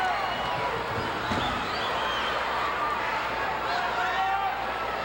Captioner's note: floor banging